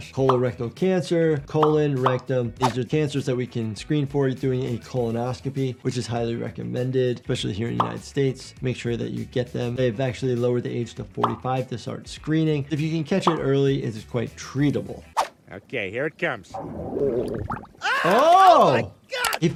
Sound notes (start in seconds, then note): 16.5 fart bubbling; 17.8 Quagmire screaming